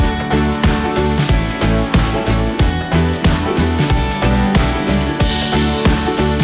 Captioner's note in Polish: Aplauz